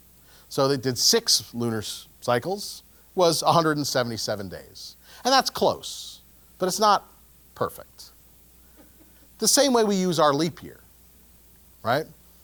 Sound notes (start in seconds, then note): 8.8 laugh